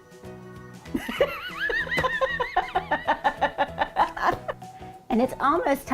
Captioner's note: laughing